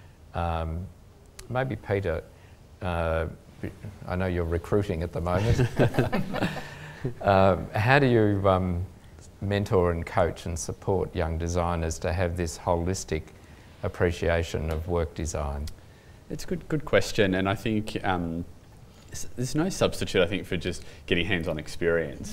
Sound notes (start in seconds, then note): 5.3 laughter